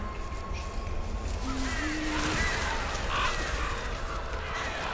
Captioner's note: crows cawing